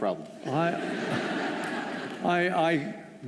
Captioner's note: laughter